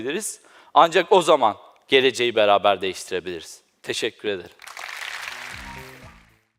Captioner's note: applaud